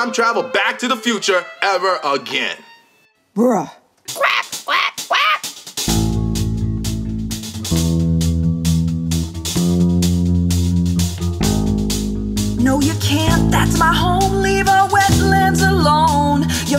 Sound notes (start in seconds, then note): 4.1 quacking; 5.8 tense music